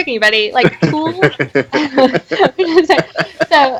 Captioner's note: laughing